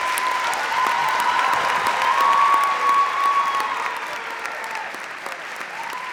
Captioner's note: audience cheering and clapping